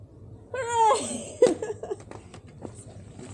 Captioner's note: laughing